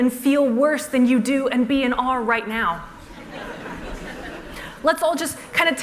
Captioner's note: laughter